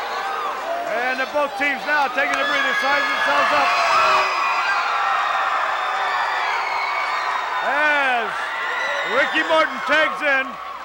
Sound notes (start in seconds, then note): 4.5 audience cheering